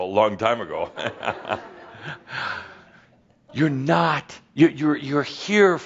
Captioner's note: Adamus chuckles